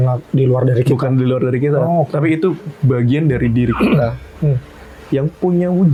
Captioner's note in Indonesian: berdehem